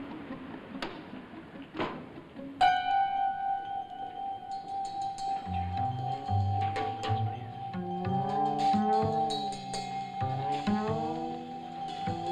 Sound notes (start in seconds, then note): 1.8 car door shuts; 2.6 ominous music